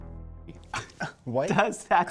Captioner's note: scoff